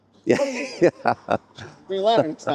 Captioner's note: laughing